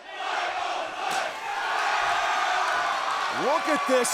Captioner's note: crowd cheering